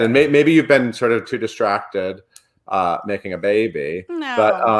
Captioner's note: laughs